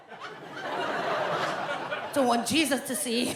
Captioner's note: audience laughs